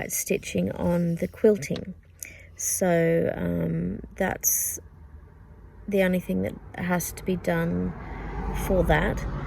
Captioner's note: car goes past